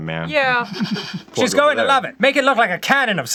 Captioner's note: in pan-pacific accent